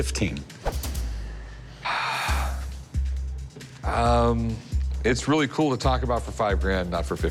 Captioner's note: sighs